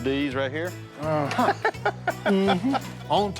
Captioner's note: laughs